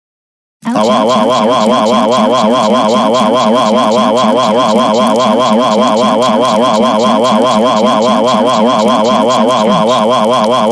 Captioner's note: Doris saying "OUCH!" multiple times